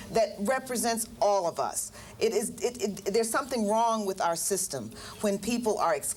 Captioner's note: stutters